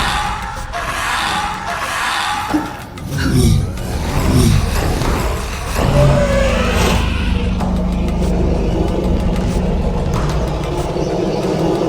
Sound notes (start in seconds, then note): 4.0 dinosaur growling; 8.0 dramatic music continues